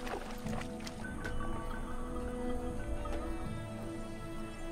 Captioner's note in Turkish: Çan sesleri